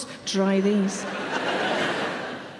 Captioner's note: audience laughing